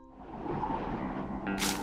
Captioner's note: wind blowing